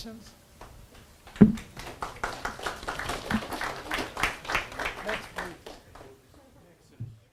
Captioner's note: audience applause